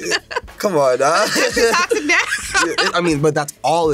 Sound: laughs

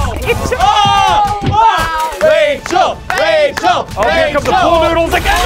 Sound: cheering

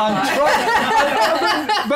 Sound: laughter

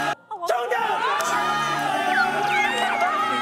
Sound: screaming

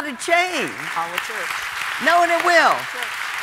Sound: audience applauding

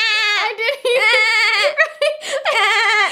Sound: laughs

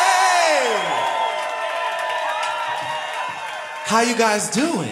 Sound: applause

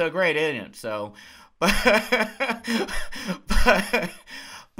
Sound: laughs

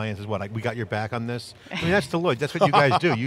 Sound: laughs

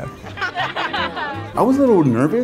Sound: people laughing

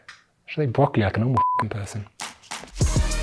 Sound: beep; action music

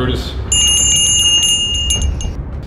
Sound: bell rings

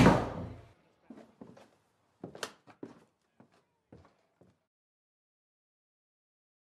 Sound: a window sliding closed; foosteps receeding on a wooden floor

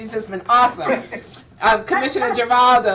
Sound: laughing

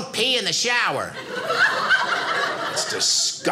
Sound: audience laughing

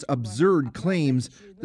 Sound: speaking Foreign Language

